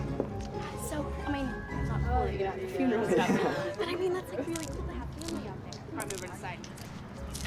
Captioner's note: chattering